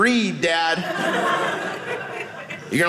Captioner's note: audience laughing